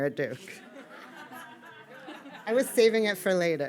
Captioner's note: audience laughing